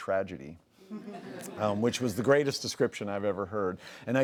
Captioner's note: laughs